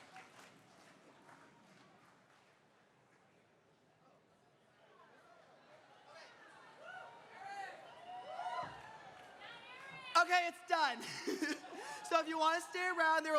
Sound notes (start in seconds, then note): 4.6 indistinct conversations, cheering